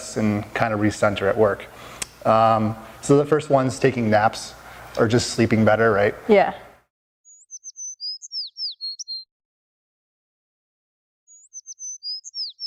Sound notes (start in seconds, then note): 7.2 birds chirping